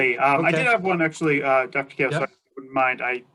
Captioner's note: technical interference